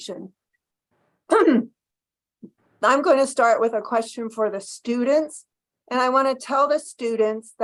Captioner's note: cough